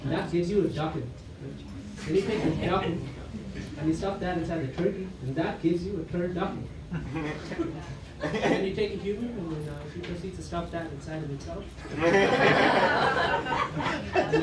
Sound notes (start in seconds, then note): 6.5 laughter; 11.8 laughter